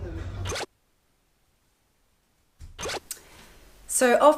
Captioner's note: silence